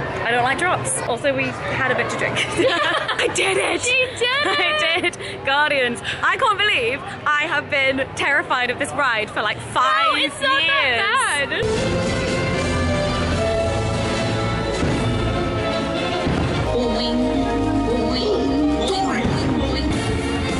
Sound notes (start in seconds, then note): 2.4 laughing; 11.9 whimsical music